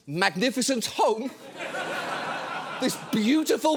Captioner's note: studio audience laughing